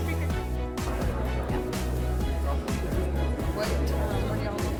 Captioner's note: students chatting